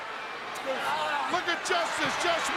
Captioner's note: Flair shouts